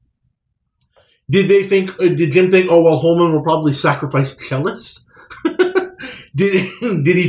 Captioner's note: laughs